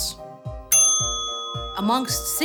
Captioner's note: bell dings